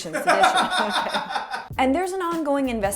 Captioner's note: background laughter